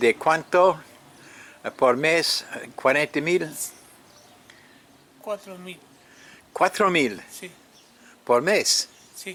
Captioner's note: speaking in English